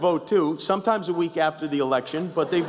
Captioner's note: laughter